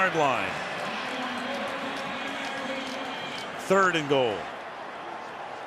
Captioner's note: pa announcement